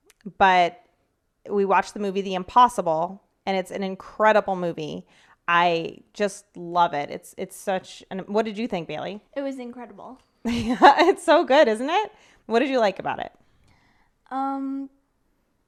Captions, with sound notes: but we watched the movie "The impossible," and it's an incredible movie. I just love it. What did you think, Bailey? - It was incredible. - (laughs) It's so good, isn't it? What did you like about it?